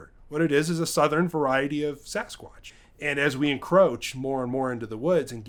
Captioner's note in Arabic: none